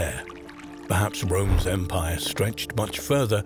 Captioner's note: horse galloping